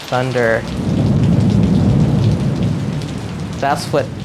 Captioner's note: thunder crashes